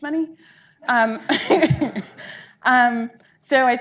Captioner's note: audience laughing